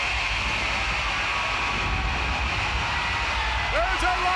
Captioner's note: thunder crashes